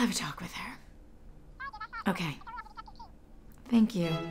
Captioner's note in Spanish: voz por teléfono